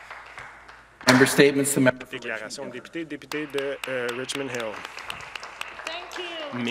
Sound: some Applause

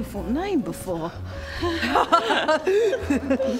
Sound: nervous giggles

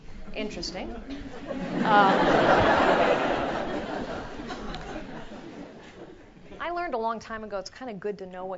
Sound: laugh

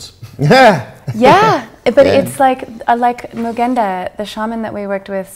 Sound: laughs

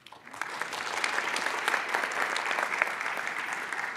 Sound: audience applauds

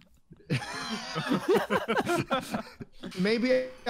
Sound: laughter

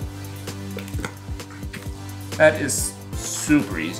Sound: mixture gurgles

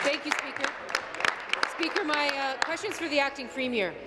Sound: applause

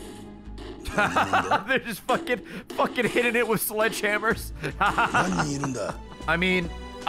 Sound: laughs

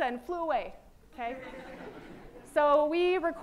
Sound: laughter

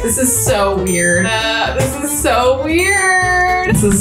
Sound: laughs

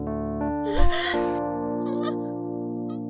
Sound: gasps

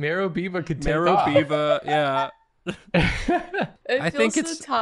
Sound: laughter

